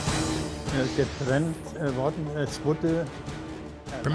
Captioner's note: speaking german